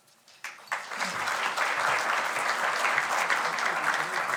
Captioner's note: audience applauding